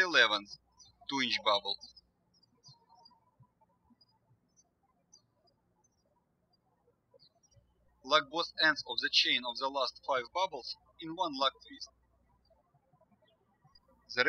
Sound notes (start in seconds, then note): 3.2 birds chirping